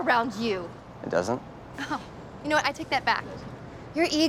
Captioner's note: chuckles